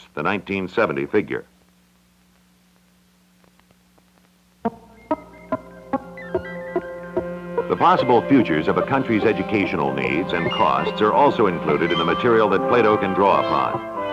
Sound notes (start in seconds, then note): 4.7 Electronic audio effects; 13.8 digitally synthesized music